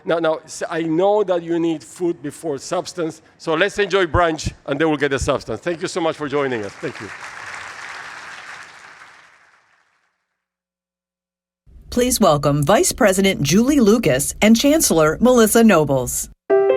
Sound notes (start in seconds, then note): 7.9 audience clapping